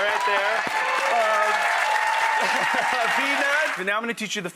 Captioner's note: laughs